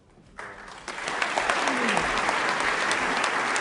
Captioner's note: applause